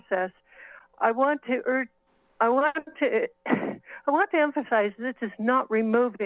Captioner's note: breath pause